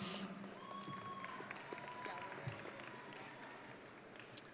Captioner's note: audience cheering